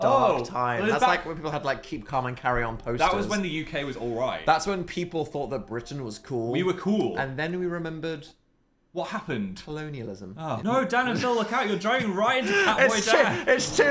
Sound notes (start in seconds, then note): 11.0 Dan laughs